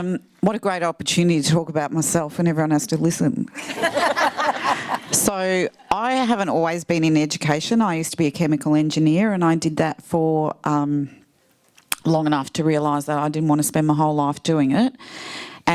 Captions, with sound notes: What a great opportunity to talk about myself and everyone has to listen. (laughs) So I haven't always been in education. I used to be a chemical engineer. And I did that for long enough to realize that I didn't wanna spend my whole life doing it.